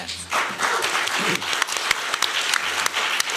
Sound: applause

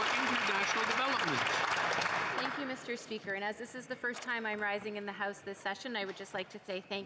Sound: some Applause

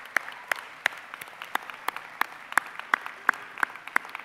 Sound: cheering

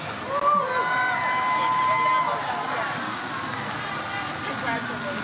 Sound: audience cheers

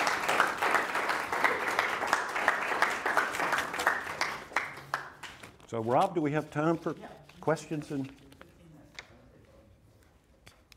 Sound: applause

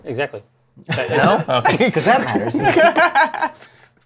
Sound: laughs

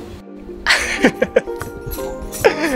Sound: chuckles

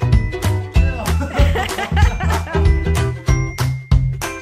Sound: laughing

